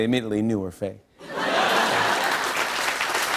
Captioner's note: laughter